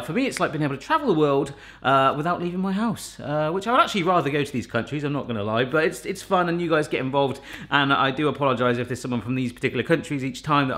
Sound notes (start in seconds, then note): none